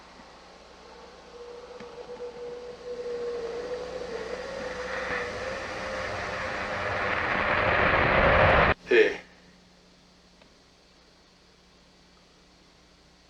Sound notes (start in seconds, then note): 1.2 eerie whooshing sound